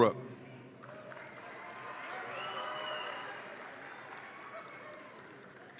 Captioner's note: audience applauds and cheers